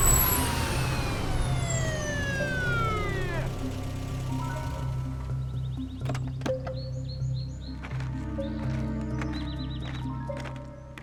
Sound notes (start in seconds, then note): 2.4 siren stops; 5.1 car engines stop; 6.0 car door; 6.9 bird whistling; 7.9 footsteps